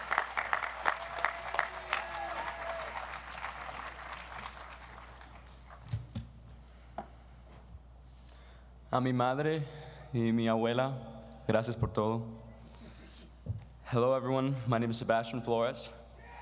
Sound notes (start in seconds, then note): 9.0 speaks in foreign language